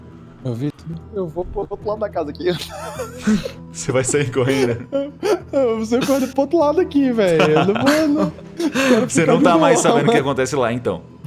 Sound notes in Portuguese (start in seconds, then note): 2.4 risos; 5.2 risos; 7.2 risos